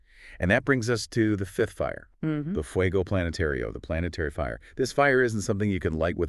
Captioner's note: Spanish